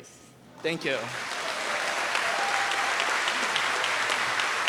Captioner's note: audience applauds